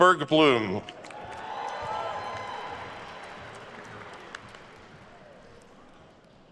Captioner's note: attendees cheering and applauding